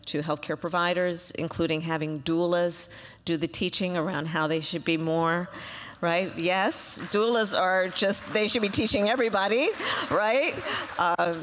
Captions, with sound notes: to healthcare providers, including having doulas do the teaching around how they should be more -- right? Yes. (Applause.) Doulas are just -- they should be teaching everybody, right?